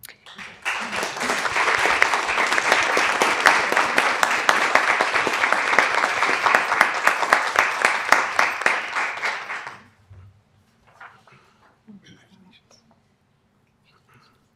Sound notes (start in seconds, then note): 0.1 applause